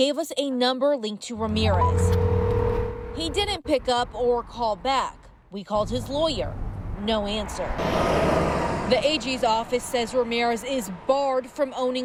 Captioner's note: nat pop of phone ringing